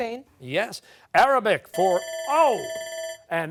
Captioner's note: bell ringing